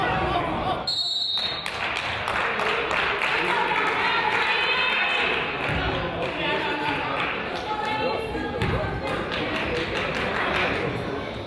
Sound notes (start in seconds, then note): 0.8 whistle blows; 1.4 crowd applauds; 6.2 coach yells